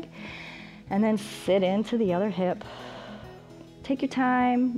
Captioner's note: exhales